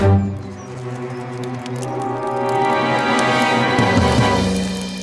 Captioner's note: flames Crackling; ominous Music